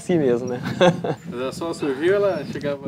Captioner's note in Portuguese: risos